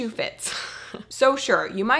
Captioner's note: chuckling